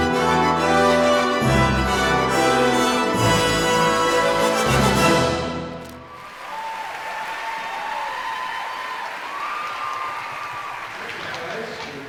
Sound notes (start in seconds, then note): 0.0 dramatic orchestral music continues; 5.9 audience applauding and whooping